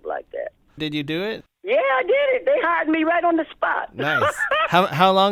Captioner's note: laughter